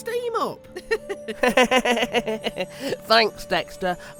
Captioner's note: both giggle